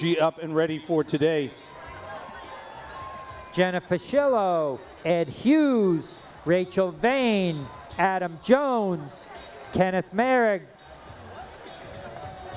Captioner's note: cheering